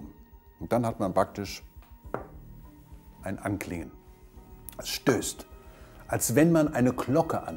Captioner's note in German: Klopfen